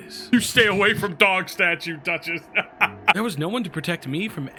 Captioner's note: laughs